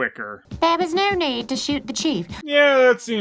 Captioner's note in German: mit nasal weiblicher Stimme